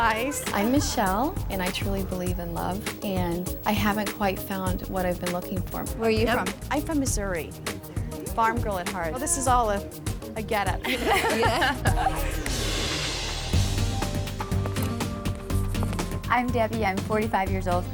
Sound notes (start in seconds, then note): 10.8 everyone laughing; 11.8 upbeat music